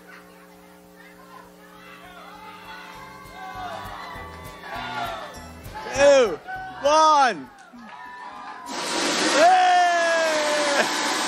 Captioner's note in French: applause